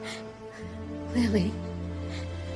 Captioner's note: ragged breathing